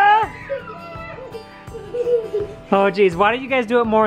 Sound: laughing

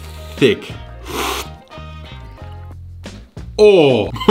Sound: slurps; laughs

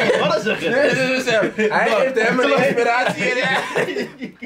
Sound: laughs

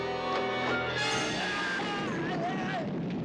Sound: screaming

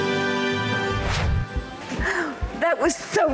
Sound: bright upbeat music; air whooshing

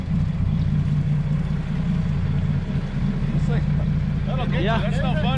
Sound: boat engine idling

